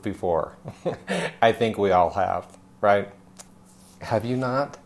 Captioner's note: laughs